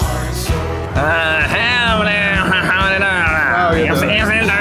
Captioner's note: weird-ass grunt; probably imitating Southern US accent?